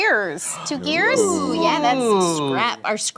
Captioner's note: gasping